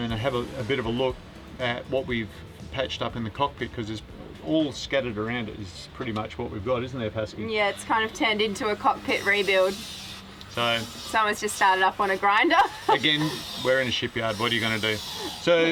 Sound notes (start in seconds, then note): 10.8 grinder whines; 12.3 laughs